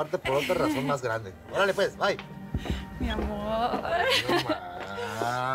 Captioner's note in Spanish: risas de irma